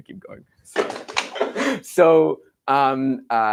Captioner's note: laughs